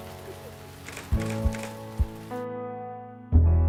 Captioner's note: camera shutter clicking